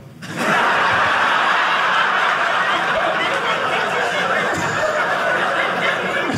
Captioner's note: audience laughing